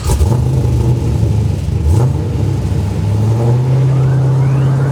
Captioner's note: car engine whistling; car engine revving